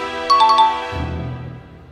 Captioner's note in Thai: ติ๊งต่องๆ